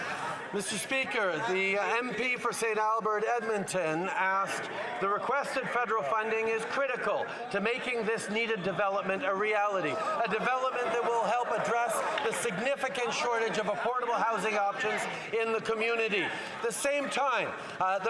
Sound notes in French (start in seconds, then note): 2.2 applaudissements; 11.0 voix de l'interprète